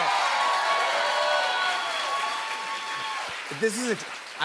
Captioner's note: cheers and applause